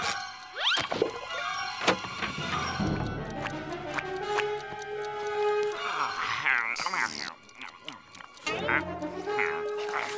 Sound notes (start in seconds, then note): 2.9 ticking; 6.0 yawning